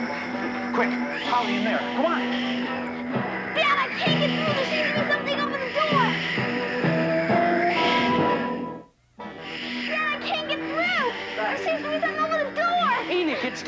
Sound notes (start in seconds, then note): 6.6 Sleestak wheezing